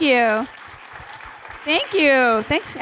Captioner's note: applause